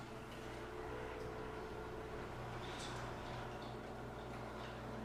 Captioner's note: gentle music; garage door rattling